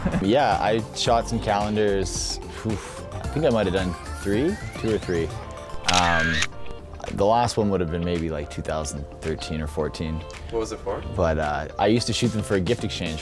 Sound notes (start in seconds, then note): 0.0 laughing; 5.8 camera clicking